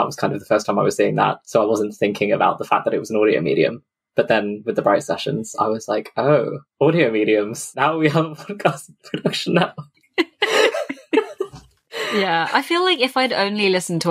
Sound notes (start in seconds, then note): 6.8 laughing; 10.2 laughs